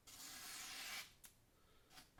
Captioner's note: sound of razor sharp knife